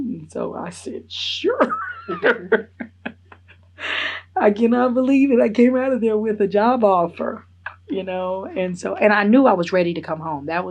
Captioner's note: laughs